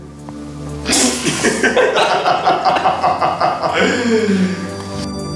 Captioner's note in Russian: Смех